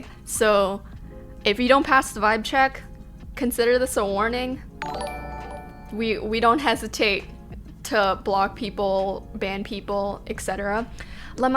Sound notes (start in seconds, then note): 4.8 notification tingling